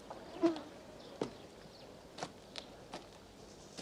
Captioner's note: buzz